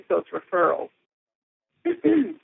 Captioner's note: clearing throat